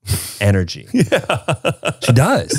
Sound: laughs

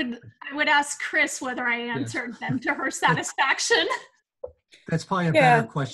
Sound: laughs loudly

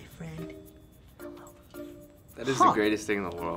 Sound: whispers

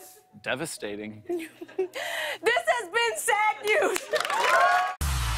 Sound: cheers and applause

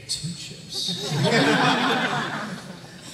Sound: laughter

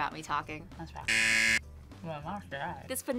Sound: buzzer

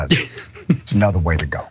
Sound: laugh

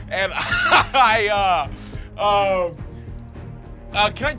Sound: laughs

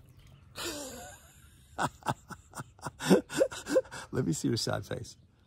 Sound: laughing

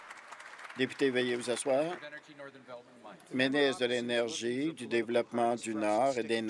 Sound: applause

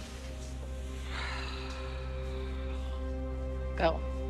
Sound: sighs

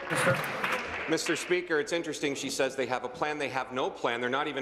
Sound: applause

